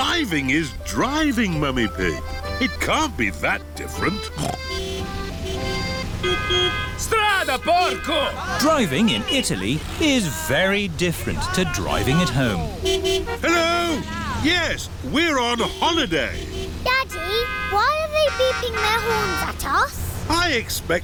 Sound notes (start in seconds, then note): 4.2 snorts; 5.3 driver yells in italian; 5.3 horns honking; 13.8 horns honking